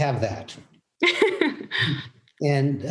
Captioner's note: laughs